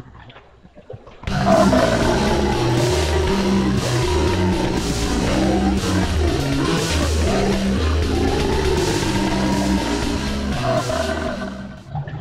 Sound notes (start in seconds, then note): 2.7 grotesque groaning